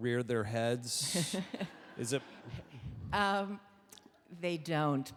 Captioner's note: audience laughing